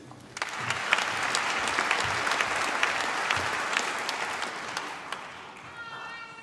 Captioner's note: applause